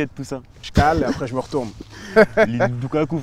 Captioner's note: laughs